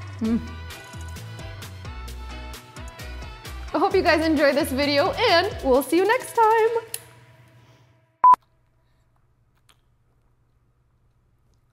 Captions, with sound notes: I hope you guys enjoy this video and we'll see you next time. (screen beeps)